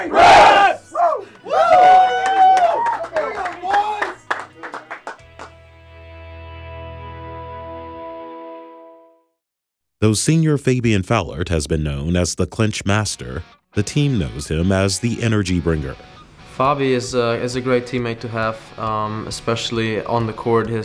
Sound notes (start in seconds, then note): 0.0 cheering